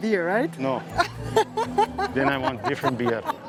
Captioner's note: laughs